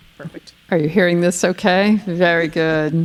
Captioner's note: chuckling